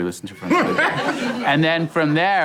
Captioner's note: laughing